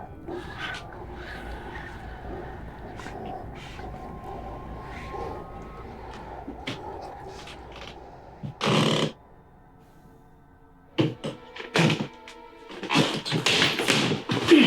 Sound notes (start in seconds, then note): 0.1 demons whisper; 8.4 door creaking; 11.4 tense horror music